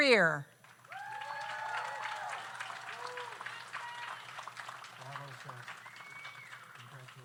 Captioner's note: audience applauds; audience cheers